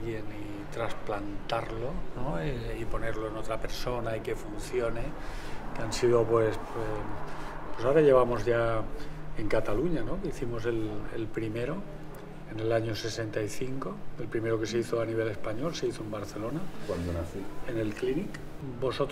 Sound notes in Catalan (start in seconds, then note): none